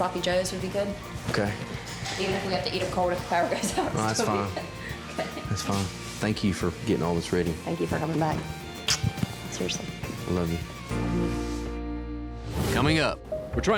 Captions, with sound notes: OKAY. EVEN IF WE HAVE TO EAT 'EM COLD IF THE POWER GOES OUT. NO, IT'S FINE. THAT'S FINE. THANK YOU FOR GETTING ALL THIS READY. THANK YOU FOR COMING BACK. [SMOOCH] SERIOUSLY. I LOVE YOU. ANNOUNCER, V/O: COMING UP...